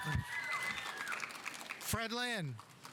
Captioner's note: audience applauding